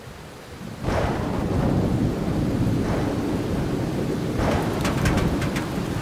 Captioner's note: thunder; raindrops clanging on GNK